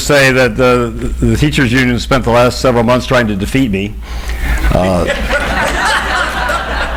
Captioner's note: audience laughs